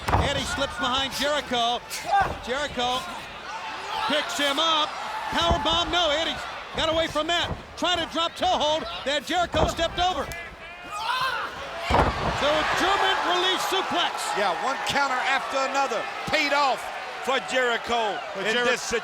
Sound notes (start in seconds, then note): 11.1 body thudding; 11.1 wrestlers grunting